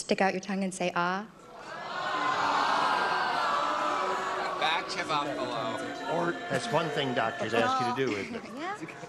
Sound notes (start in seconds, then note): 4.0 booing